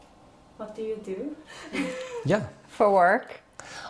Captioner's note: laughs